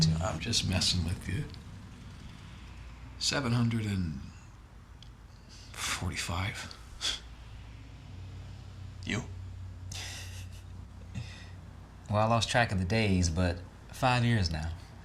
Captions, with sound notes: - I'm just messing with you. 745, (sighs) you? (Will giggles) - Well, I lost track of the days but five years now.